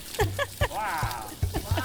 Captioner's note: background ‘wow’